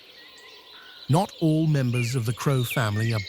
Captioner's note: birds chirping